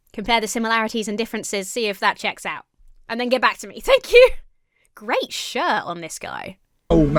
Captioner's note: none